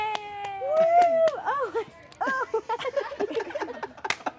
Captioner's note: cheering; laughing